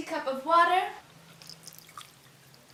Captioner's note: water gurgling